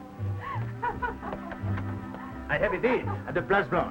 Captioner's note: Ines laughs